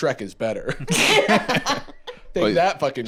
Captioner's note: laugh